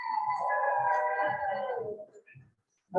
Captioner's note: cheering and Applause